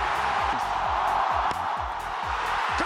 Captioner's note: crowd cheering